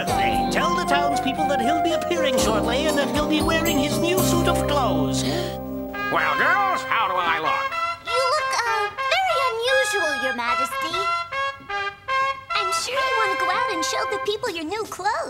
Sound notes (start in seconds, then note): 5.4 horn blows